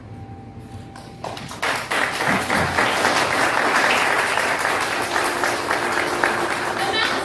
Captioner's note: applause; eerie music